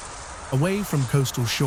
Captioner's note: wind blowing; birds chirping